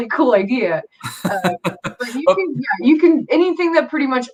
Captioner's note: laughs